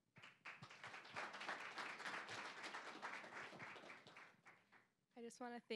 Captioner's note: applause